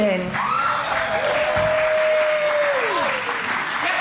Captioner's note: cheering